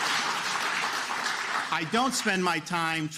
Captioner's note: applause